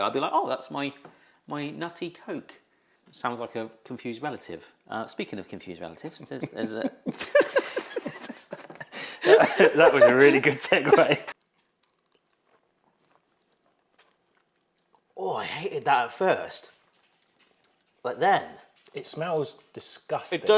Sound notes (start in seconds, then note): 6.1 both laugh; 6.1 laughs; 12.7 host gulping